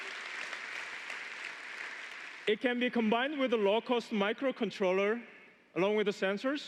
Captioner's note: applause